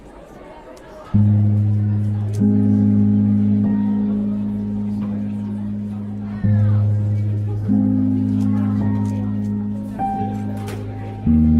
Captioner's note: crowd chattering